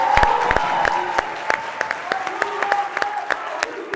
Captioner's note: cheering